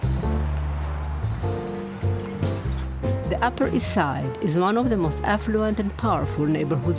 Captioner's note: voice-over